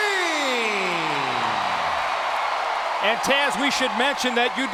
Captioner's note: crowd cheering